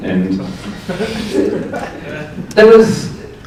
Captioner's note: audience laughs